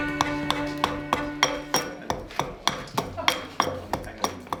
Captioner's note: axe thumps